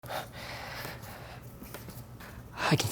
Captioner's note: heavy breathing